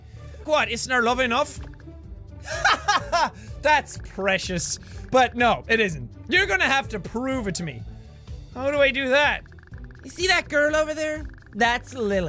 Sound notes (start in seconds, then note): 2.4 laugh